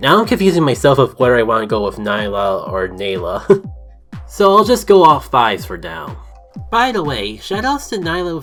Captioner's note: chuckle